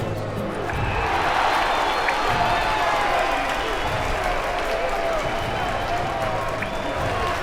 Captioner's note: cheers